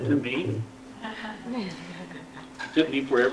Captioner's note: laughter